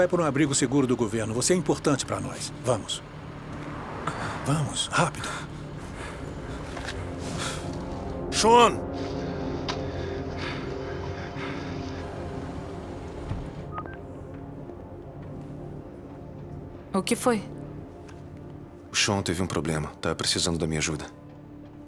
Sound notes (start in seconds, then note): 9.6 Sean panting; 13.7 cell phone beeping